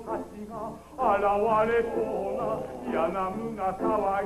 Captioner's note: Shogun groans in pain